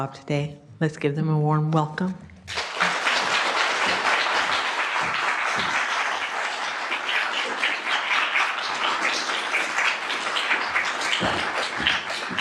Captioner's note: applause